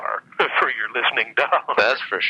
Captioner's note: laughs